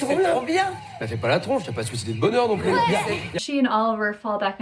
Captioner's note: sarcastically